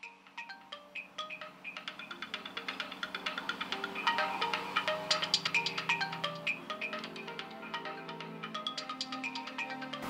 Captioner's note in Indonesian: Handphone berdering